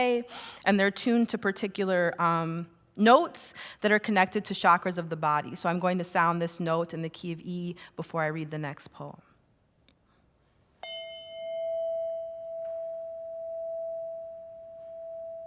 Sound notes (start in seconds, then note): 10.8 bell chime